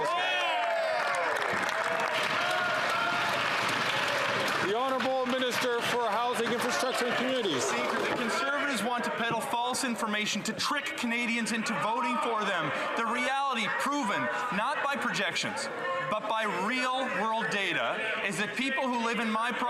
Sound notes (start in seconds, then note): 7.9 some Applause